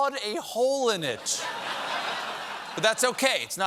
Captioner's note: laughter